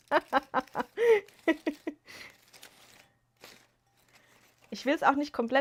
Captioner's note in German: gelächter